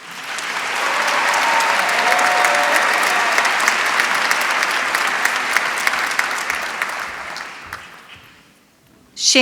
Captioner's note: applause